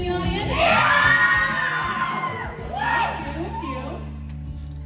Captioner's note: audience cheering